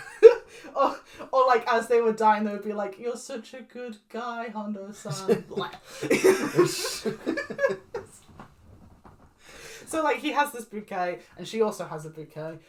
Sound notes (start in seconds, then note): 0.0 laughs; 4.6 dying noise; 5.0 laughing; 5.0 laughs